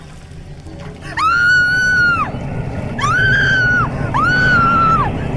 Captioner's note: Kate screaming